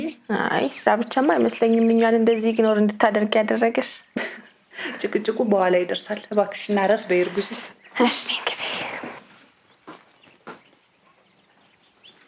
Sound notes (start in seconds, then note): 4.0 laughs